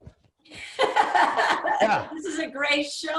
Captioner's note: laughing